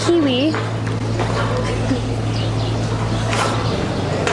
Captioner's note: laughing